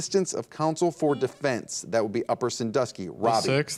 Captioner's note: buzzer dings